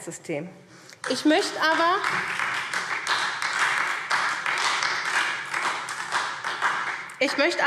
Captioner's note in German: Beifall SPD